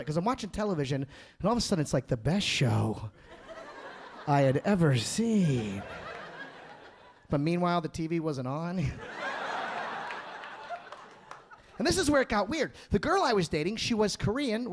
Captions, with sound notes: 'Cause I'm watching television and all of a sudden it's like the best show I had ever seen. (audience laughing) But meanwhile, the TV wasn't on. (audience laughing) And this is where it got weird. The girl I was dating, she was Korean.